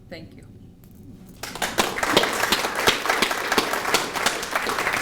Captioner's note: applause